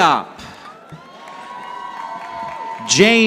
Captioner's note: audience applauding